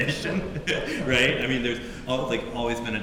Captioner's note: laughing